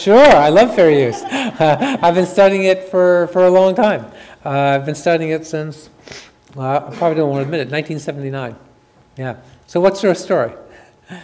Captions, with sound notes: - (chuckles) Sure, I love fair use. I've been studying it for a long time. I've been studying it since, (sniffs) probably don't want to admit it, 1979, yeah. So, what's your story?